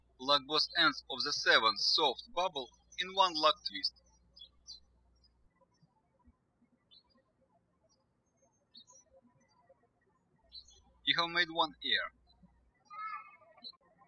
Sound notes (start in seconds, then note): 5.4 birds chirping; 13.8 birds chirping